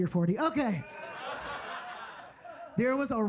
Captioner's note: audience laughing